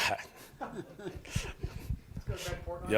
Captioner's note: all gently chuckling